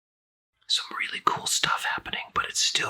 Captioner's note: whispering